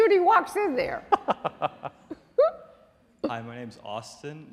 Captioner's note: laughing